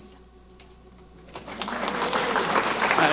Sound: audience applauding

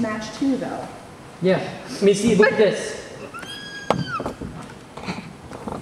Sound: high pitched squeal

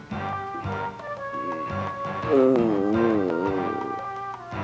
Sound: sighs in pain

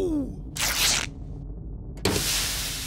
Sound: rips; sizzling

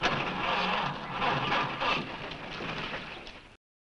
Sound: car starting

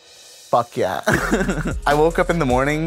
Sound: laughs

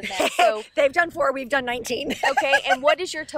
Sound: laughs

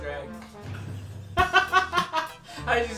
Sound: laughing

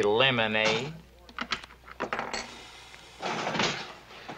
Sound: slot machine clanking

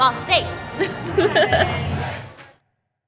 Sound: laughter

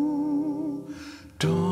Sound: none

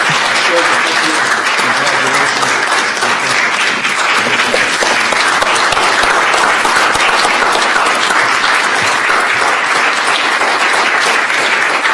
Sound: applause

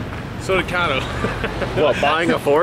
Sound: laughs

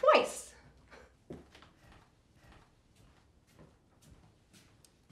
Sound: foot stamping

